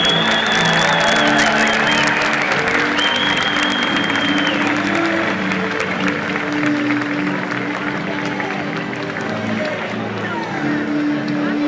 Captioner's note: crowd conversing and cheering